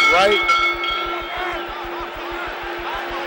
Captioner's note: bell sounds